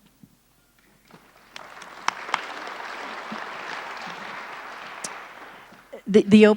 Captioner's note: applause